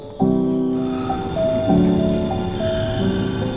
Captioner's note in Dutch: tram geluiden